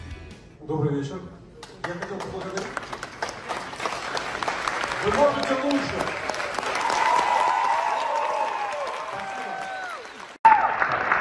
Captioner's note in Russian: Аплодисменты; Громкие аплодисменты